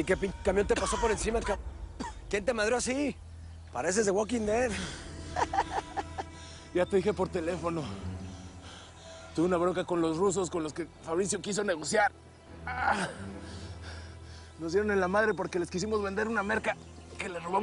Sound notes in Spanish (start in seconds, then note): 5.2 Risas